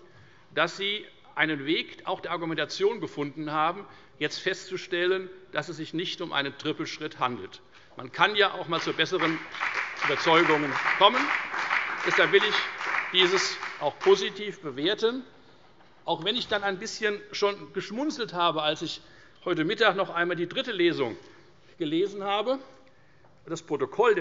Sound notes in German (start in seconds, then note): 8.6 Beifall bei der FDP